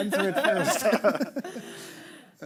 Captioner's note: all laughing